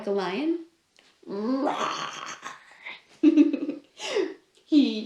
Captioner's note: laughs